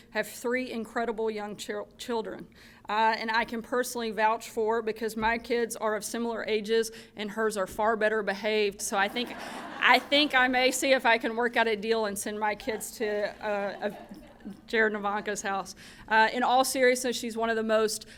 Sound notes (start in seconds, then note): 9.0 laughter